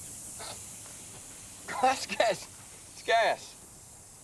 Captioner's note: coughing